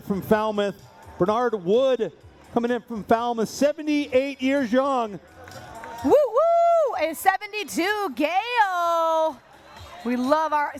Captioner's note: cheering